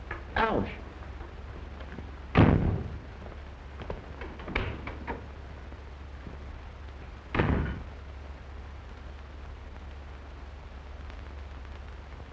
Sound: door closing

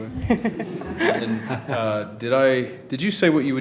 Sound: all laugh

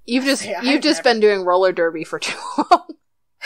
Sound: laughs

